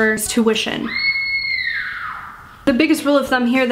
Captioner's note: woman screams